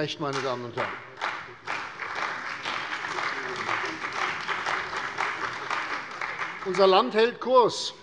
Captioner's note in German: Beifall bei der CDU und dem BÜNDNIS 90/DIE GRÜNEN